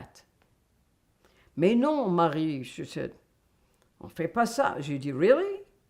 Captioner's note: french